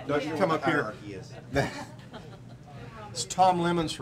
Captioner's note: laughing